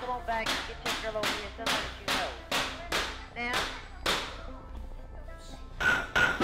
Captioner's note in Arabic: ضوضاء موقع البناء